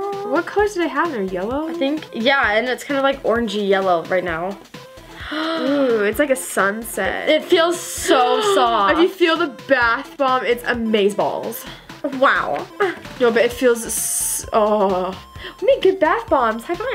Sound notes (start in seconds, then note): 9.3 gasps